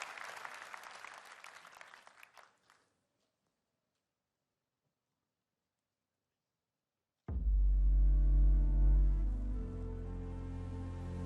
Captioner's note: cheers and applause